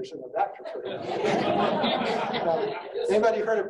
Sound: audience laughing

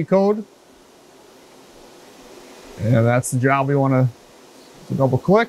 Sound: machine noise

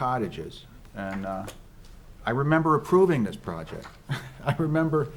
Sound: chuckles

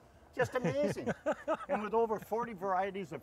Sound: laughing

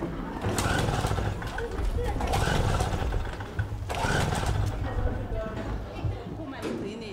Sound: crowd talking

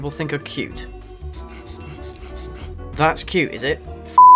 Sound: strained heavy breathing continues

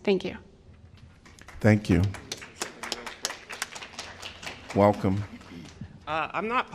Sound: applause

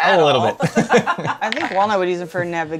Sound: laughter

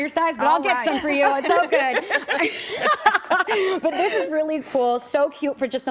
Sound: laughter

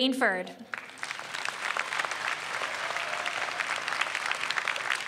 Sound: audience applauds

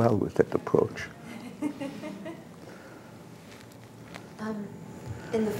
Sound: laughter

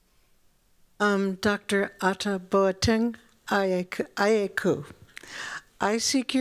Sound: non-english

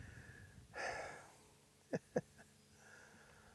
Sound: sighs; chuckles

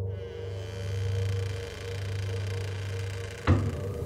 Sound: loud creaking

